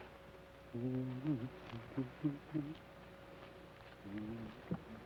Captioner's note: Joshua hums melodically